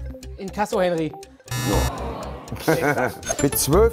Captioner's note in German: Lachen